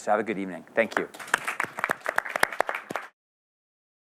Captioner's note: applause